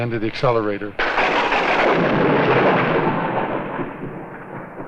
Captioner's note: thunder crashing